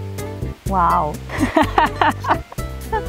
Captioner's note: laughter